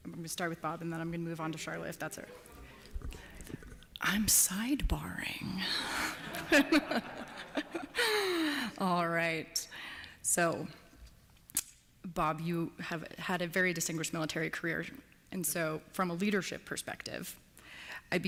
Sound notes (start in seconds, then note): 6.1 laughter